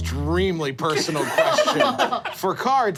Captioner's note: group laughing